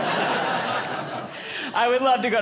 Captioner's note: audience laughing